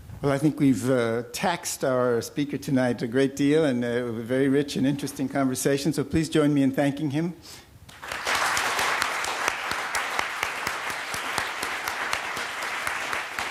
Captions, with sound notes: Well, I think we've taxed our speaker tonight a great deal in a very rich and interesting conversation. So please join me in thanking him. [APPLAUSE]